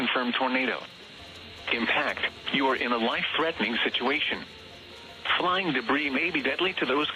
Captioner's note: mechanical whirring